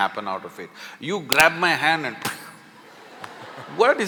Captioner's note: laughter